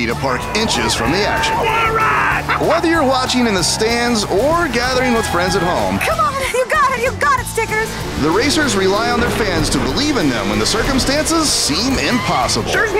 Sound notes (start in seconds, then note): 0.1 cheering